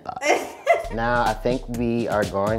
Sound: laughs

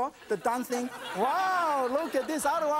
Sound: audience laughs

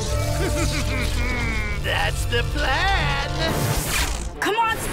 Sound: evil laugh

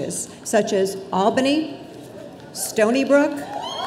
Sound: audience cheering

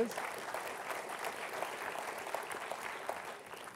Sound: applause

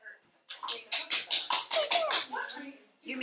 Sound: clanging sounds in the background

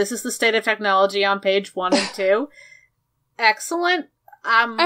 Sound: sighs

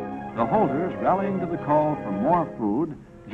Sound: voiceover

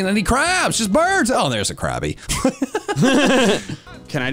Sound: laugh

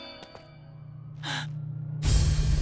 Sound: gasping

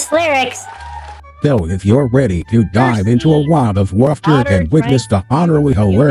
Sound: voiceover

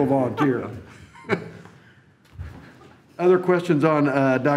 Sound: chuckles

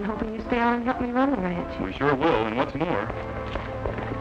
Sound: hoofbeats

